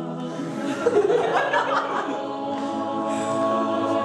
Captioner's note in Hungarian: nevetés